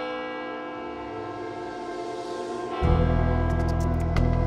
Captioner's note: church bells tolling